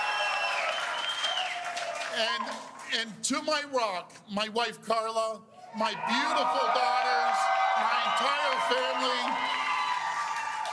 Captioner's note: cheers and Applause